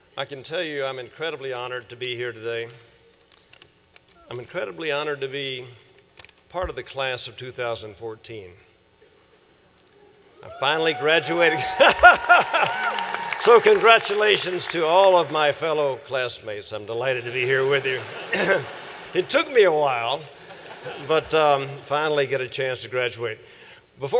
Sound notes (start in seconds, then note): 11.7 laughter; 17.5 laughter